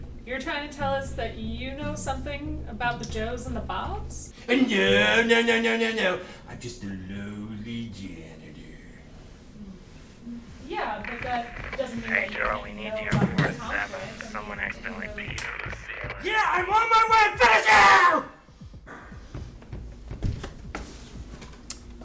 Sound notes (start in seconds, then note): 16.7 screaming